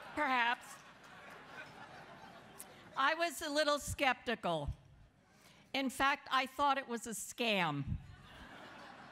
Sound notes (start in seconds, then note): 8.0 laughter